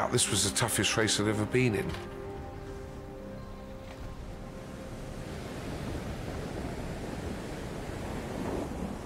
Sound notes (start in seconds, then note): 4.0 waves crashing